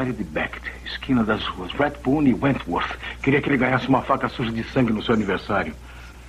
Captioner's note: scoffs